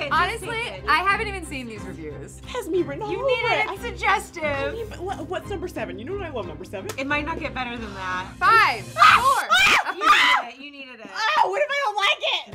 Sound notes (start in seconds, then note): 9.0 screaming